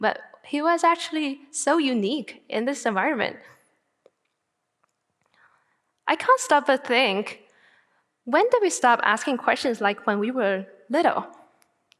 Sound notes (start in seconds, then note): none